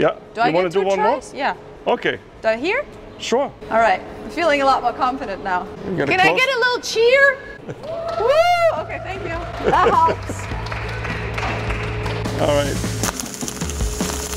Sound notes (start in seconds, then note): 7.8 cheering; 11.7 clapping; 14.1 upbeat music